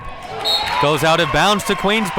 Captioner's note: whistle blows